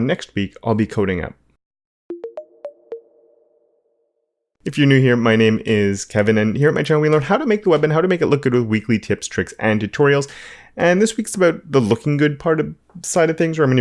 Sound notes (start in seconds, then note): 2.1 electronic tones